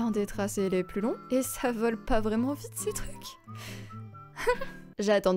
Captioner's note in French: rire gêné